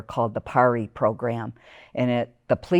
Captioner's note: none